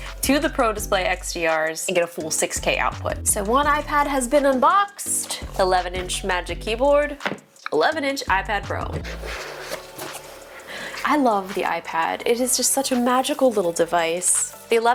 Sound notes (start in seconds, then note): 9.0 box screeching